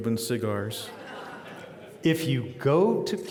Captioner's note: audience laughing